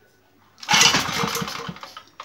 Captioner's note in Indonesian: bunyi mesin